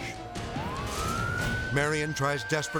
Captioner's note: sirens blaring